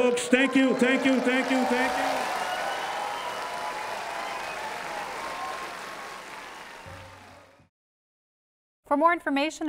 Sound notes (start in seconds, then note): 2.1 applause and cheering